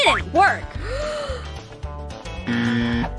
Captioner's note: gasp; horn